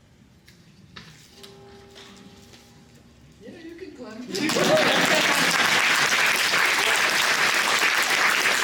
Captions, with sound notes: [BELL TOLLING] Yeah, you can clap. [CHEERING, APPLAUSE]